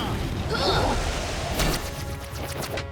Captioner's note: groaning